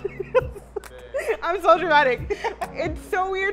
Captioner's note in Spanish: riendo